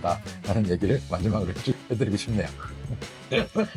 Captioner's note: laughs